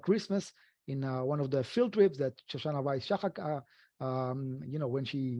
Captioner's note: speaking foreign language